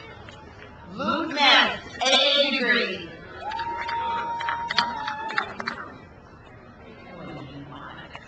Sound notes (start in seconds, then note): 3.1 crowd cheers